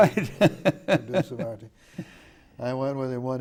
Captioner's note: laughing